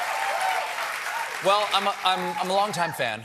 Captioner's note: cheers and applause